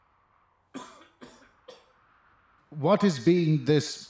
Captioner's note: unimpressed Coughing